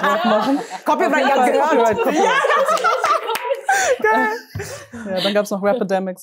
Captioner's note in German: Gelächter